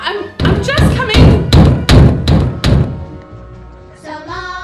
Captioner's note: loud banging on the door